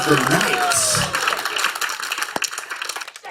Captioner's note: applause